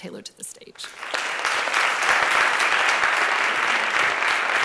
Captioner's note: applause